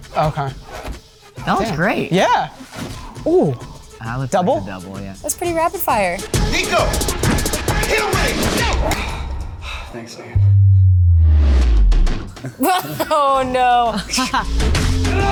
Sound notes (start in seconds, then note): 10.3 intense music; 12.4 Xolo and Mary laughs; 13.8 Peyton laughs; 15.1 fighter grunts